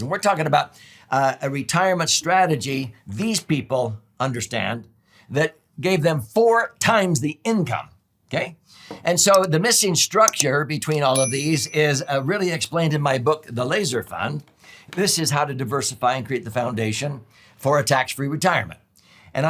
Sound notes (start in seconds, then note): 10.2 mouse clicks; 11.0 bell chimes